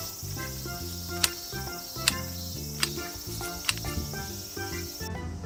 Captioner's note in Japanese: 枝の剪定の音